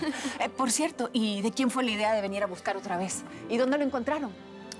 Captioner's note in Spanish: Risas